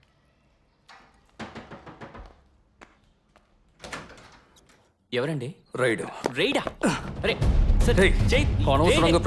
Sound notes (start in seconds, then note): 0.9 repeated knocking; 3.8 door opens